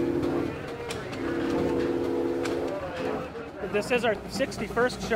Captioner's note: steam whistle blows